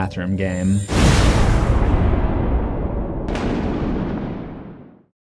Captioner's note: thunder